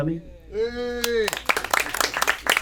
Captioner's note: audience cheering; audience applauding